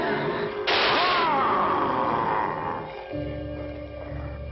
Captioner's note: werewolf wheezing; gunshot firing